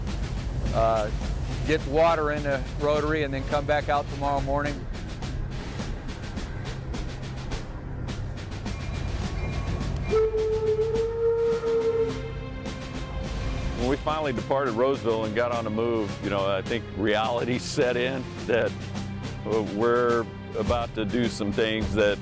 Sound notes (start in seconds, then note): 5.7 sound of drumroll; 10.0 sound of horn